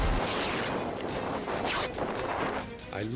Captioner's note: parachute rips